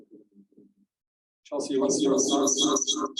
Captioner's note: audio echoing